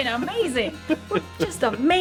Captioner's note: laughing